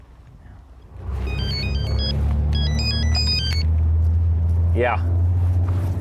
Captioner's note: phone rings